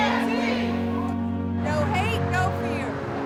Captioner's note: crowd